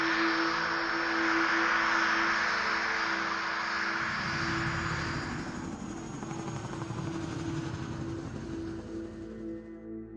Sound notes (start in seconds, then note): 0.2 plane engines roaring; 4.0 helicopter blades whirring